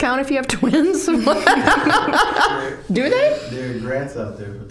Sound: laughing

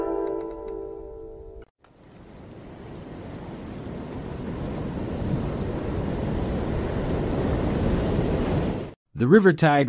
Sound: sound effect

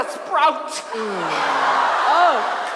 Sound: audience laughs

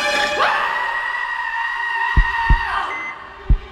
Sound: dark music playing; screams

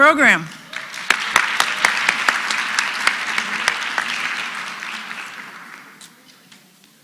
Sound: applause

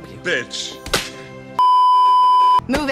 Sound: s l a p; beeeeeep

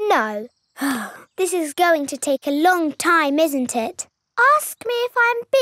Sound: sighs

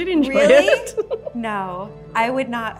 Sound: laughs

